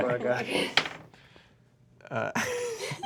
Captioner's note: die rolls; laughs